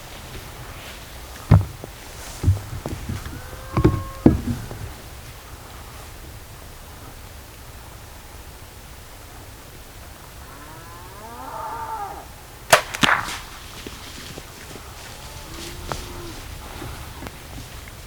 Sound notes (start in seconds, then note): 12.7 bow shot heard